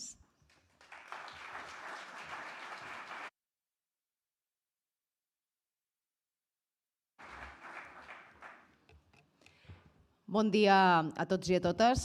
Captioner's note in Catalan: aplaudiment